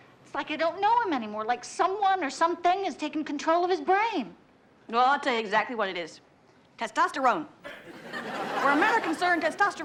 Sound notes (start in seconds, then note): 7.6 audience laughs